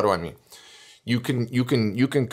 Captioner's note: breath